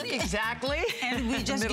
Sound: laughter

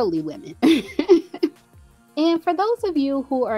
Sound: laughs

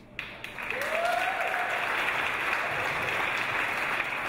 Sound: audience applause

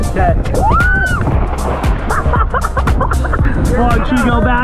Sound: screams

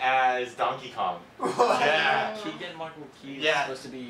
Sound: laughs

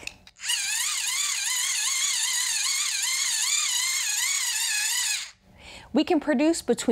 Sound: whirring

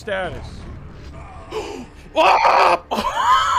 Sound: yells; gasps; wheezing

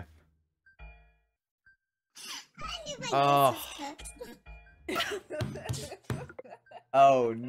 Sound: laughing

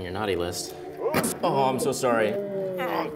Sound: thuds; voiceover

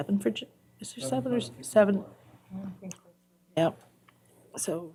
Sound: indistinct chatter

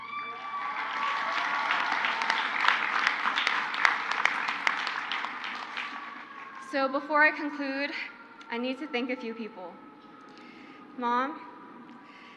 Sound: crowd cheers

